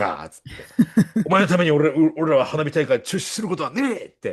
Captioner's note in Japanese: 笑い